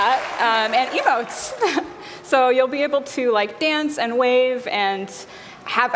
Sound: cheers and applause

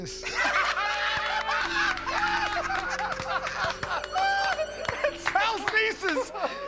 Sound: laughter

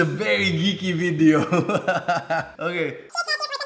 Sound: laughs

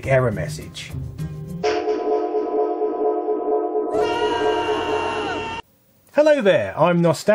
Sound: panicked screams of disarray

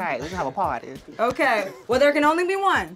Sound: laughing

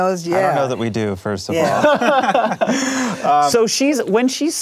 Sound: laughing

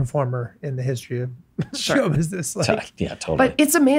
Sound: chuckles

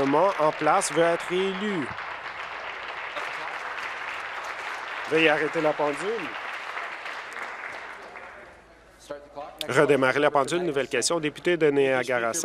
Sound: applause

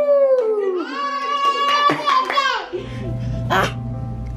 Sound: cheers; gurgles

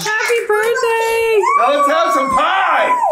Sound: group cheers

